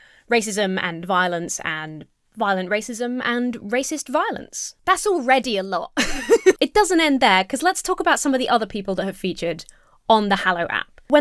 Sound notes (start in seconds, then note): 6.0 laughs